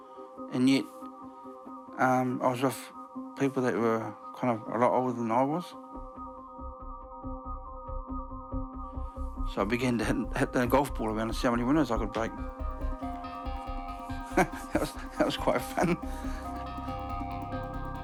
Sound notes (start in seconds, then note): 14.4 laughs